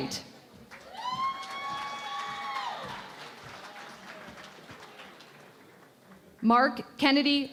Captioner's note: cheering and Applause